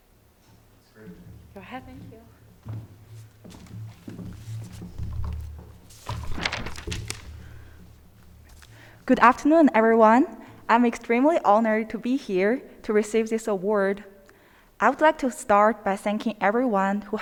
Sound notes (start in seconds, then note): 5.8 paper rustling